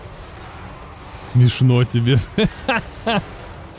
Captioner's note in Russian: смех